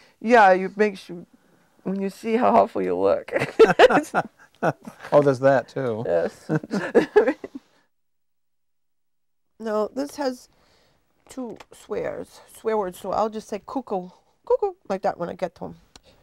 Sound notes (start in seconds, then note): 3.4 chuckling; 6.5 chuckling